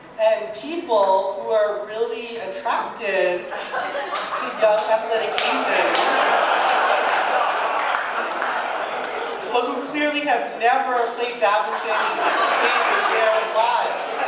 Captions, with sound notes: and people who are really attracted to young, athletic Asians. (audience laughing and clapping) But who clearly have never played badminton in their lives.